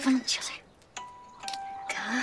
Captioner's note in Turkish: Telefon Sesi